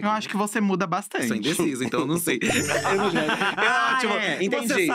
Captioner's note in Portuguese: risos